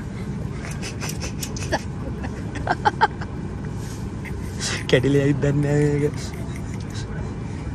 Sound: random giggles

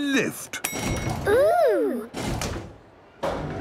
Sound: lift pings; lift moving

